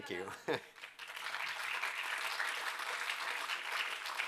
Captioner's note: applause